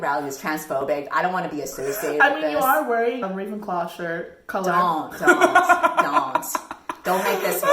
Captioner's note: cackles